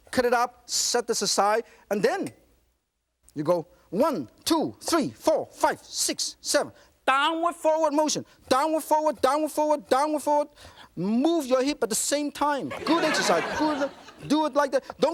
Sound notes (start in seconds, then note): 12.6 laughter